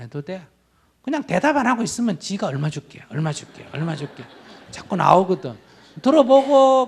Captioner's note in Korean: 청중 웃음